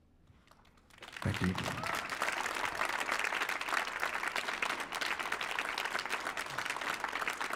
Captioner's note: audience applauds